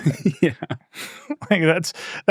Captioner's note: laughs